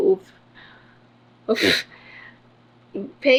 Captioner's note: scoffs